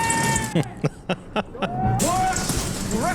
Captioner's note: laughing